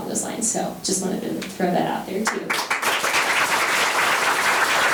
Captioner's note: members applauding